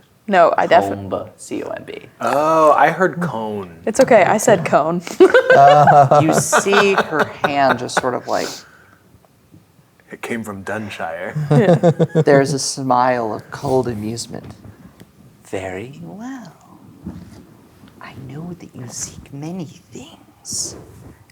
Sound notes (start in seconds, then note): 5.2 players laughing; 11.3 players laughing